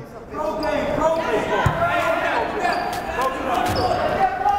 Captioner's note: yelling